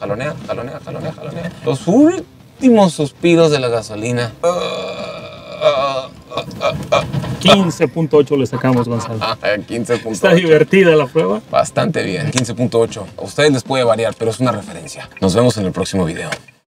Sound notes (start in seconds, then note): 8.4 laughter